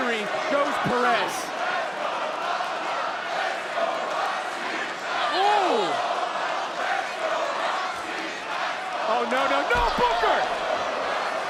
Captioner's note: applause